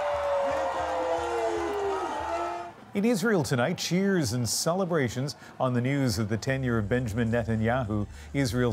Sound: cheers and Applause

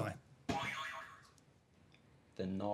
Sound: boing

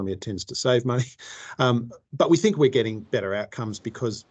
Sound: laughs

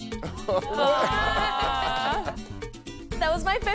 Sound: laughter

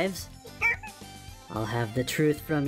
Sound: cute bunbie noise of surprise

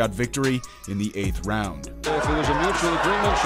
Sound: crowd cheering

